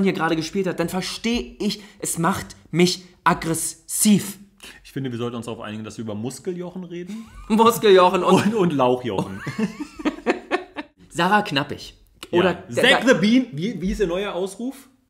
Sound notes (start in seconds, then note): 9.2 laughs